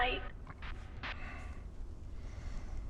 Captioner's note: Static; sighing